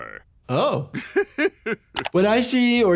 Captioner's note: Dr. Hibbert laughing